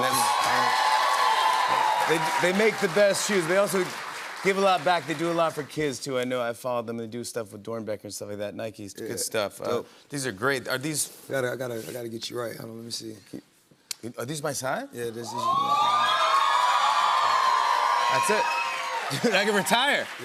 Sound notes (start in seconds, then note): 0.0 cheers and applause; 15.2 cheers and applause